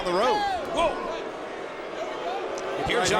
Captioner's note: crowd boos